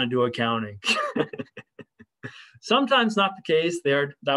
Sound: laughter

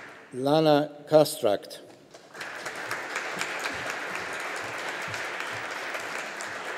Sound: audience applauding

